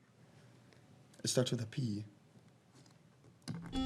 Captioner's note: buzzer rings